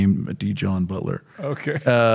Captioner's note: chuckling